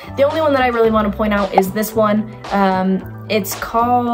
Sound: arrow pops

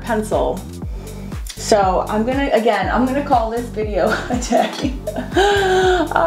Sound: laughs

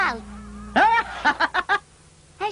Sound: Tarzan laughs

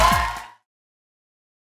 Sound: applause and cheering

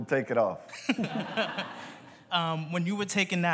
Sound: laughter

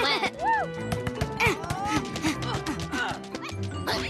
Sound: dribbling efforts

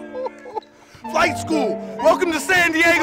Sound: excited laughter

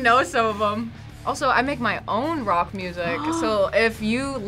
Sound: gasps

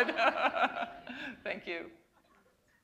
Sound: laughter

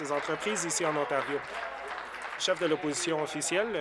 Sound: applause

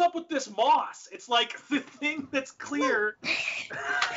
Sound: laughs

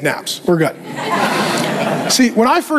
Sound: congregation laughing

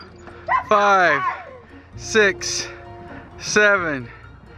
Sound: shrieking

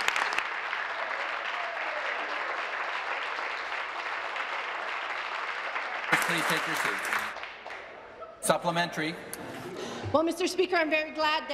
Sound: applause

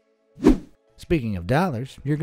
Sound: air whooshing

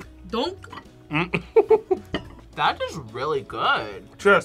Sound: laughs

